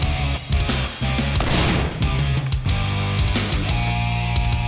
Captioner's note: hard rock music; gunshot bangs